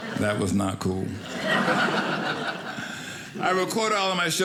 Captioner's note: audience laughing